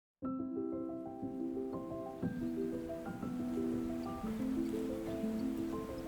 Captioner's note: bright music; birds chirping